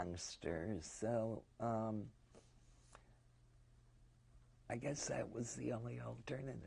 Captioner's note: pauses for 3 seconds